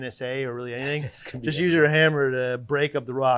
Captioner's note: chuckling